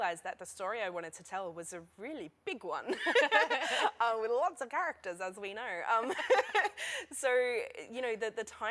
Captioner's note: laughter